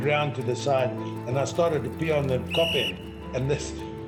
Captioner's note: whistle blows